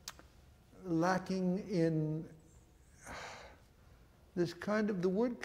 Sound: sighs

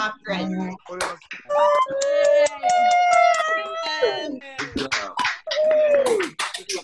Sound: people cheering and clapping

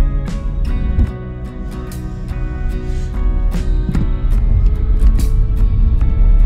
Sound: car noises

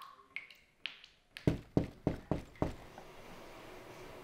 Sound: water dripping; door knock

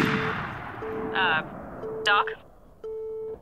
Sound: beep beep

